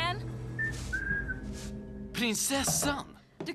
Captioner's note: whistles